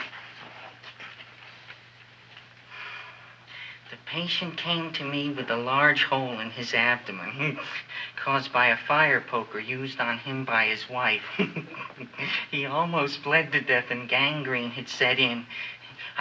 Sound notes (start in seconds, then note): 2.7 Wilbur sighs; 7.4 chuckles; 11.2 chuckles